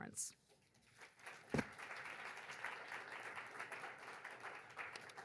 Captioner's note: audience applaud